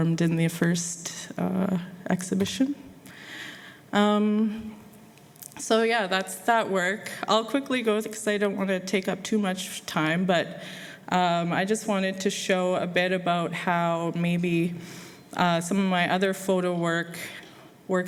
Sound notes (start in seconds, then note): none